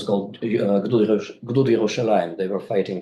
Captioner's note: speaks in foreign language